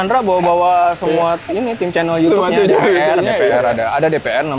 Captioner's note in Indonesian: ketawa